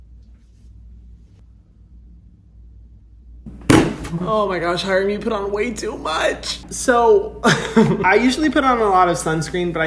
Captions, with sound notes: (thudding) Oh my gosh, Hyram, you put on way too much! So, (laughing) I usually put on a lot of sunscreen,